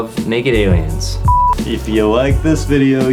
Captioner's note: screen beeps